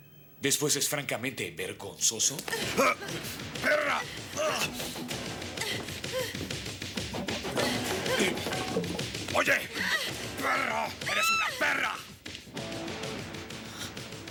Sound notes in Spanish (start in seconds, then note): 5.6 música animada; 9.5 gritando; 10.9 berrando